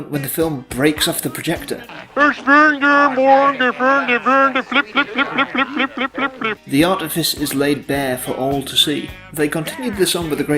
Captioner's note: vaguely Swedish noises